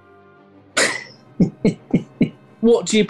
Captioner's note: chuckling